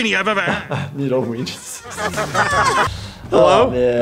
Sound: laughter; stutters

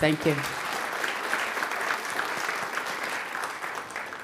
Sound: audience clapping

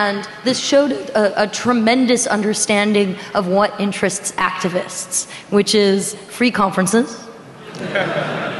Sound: laughing

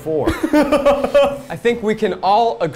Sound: laughs

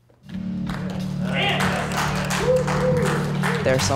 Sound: cheering and clapping

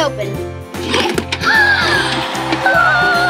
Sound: upbeat playful music; gasp; box clacks; sings

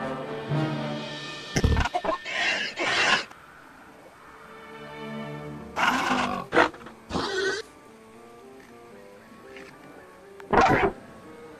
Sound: dramatic Music; Gallimimus Sounds

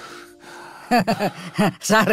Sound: laughs

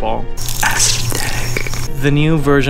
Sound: beautiful sounds like whales

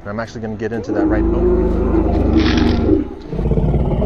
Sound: crunch

